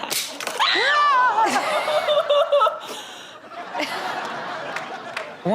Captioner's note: women laughs and screams; audience and host laughs